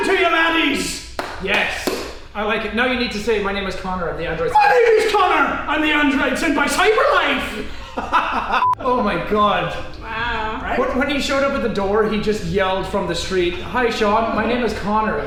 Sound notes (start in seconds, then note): 6.9 in an Irish accent; 7.6 laughs